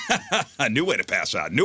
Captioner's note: laughter